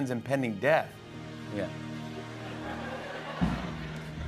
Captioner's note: laughter